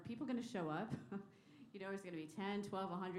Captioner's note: laughter